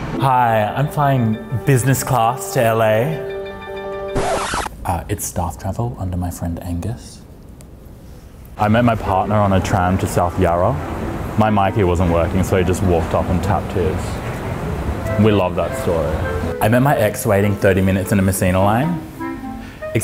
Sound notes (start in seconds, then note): 4.2 record scratching